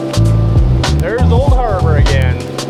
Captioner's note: wind blowing